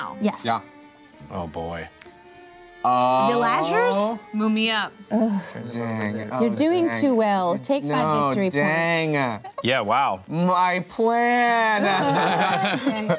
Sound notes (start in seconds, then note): 5.1 groans; 11.8 laughter